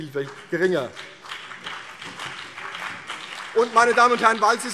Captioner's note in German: Beifall CDU und BÜNDNIS 90/DIE GRÜNEN